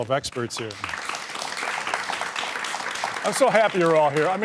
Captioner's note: applause